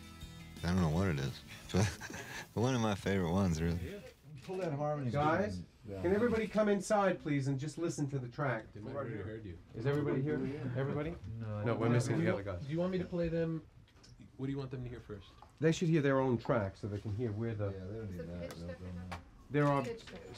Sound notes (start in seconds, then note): 1.6 laughs; 11.4 indistinct chatter; 18.3 indistinct chatter